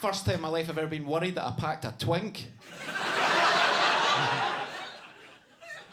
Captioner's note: audience laughs